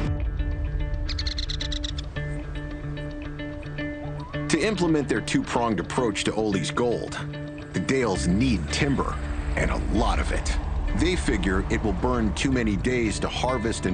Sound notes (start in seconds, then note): 0.3 upbeat music; 1.0 bird calling